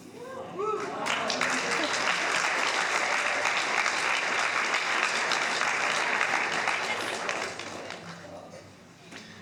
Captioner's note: applause